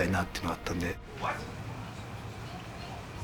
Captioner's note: in English